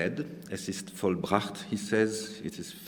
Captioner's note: speaking german